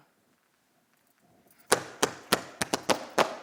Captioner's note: tapping